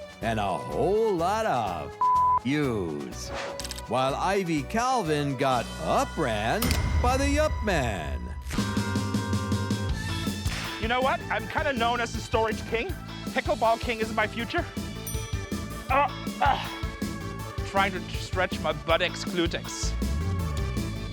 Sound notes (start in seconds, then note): 8.5 upbeat music; 10.4 snapping; 15.0 ding; 15.9 grunting